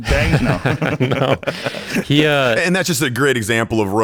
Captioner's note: laughing